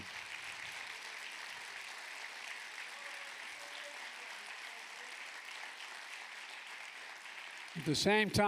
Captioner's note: applause